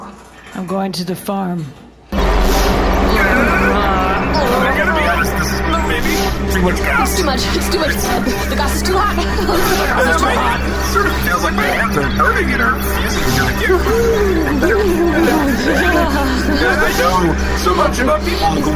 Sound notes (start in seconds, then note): 5.9 gossip cube humming at full force, zapping; 5.9 groaning; 13.1 slightly maniacal laughter